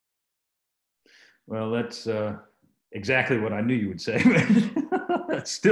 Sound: laughs

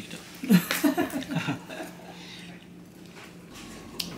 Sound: laughs

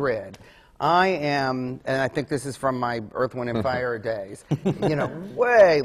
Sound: laughs

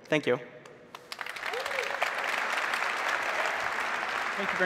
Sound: applause

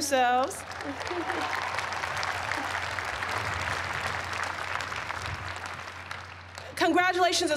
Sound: applause

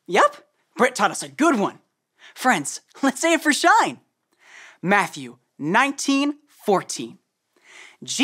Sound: none

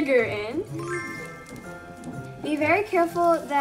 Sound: bell chimes

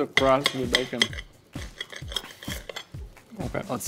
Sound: knife scraping plate

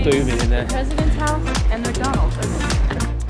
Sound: faintly speaking; upbeat music

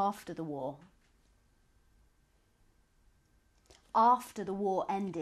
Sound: pauses for 3 seconds

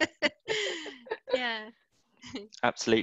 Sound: laughter

